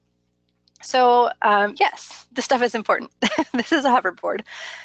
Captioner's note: laughs